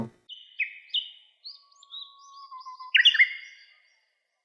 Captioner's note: chirping